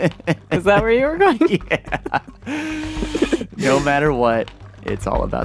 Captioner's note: laughs; laughs